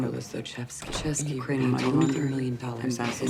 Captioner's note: overlapping chattering